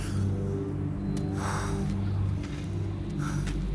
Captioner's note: sighs